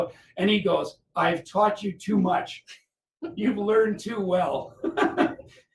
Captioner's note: laughter